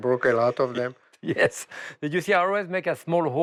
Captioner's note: laughs